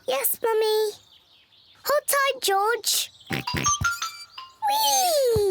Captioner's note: oinks